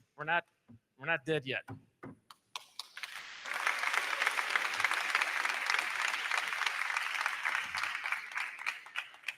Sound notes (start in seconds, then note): 2.6 crowd clapping; 2.9 crowd cheering